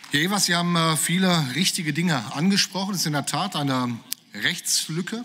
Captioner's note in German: Beifall